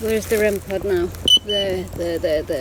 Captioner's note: beep